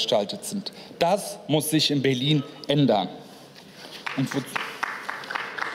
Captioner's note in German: Beifall